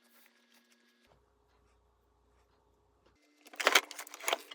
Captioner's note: scratching, scratching